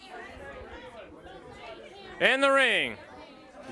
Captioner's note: crowd chatter